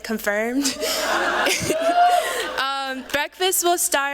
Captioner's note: laughter